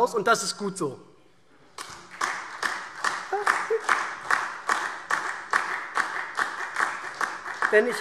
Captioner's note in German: Beifall SPD und DIE LINKE